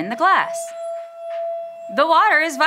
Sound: glass squeals

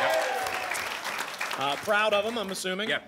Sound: applause and cheering

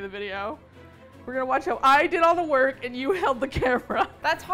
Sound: laughs

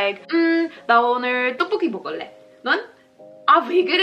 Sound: speaking Korean

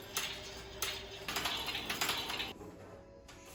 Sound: sound of the washing machine

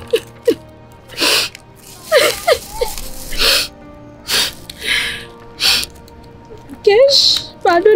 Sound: tears

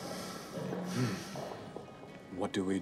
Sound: sighs

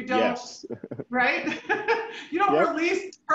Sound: chuckling

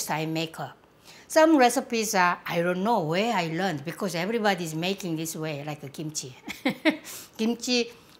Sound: laughs

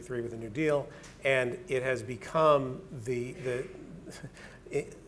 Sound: stammering

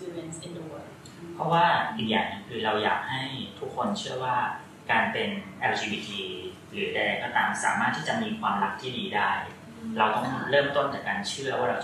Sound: continuing in Thai

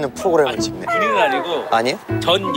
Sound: frustrated

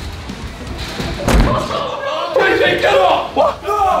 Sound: loud thud

